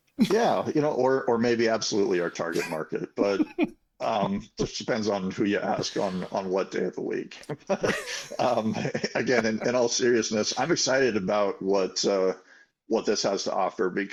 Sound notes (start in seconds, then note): 7.2 laughing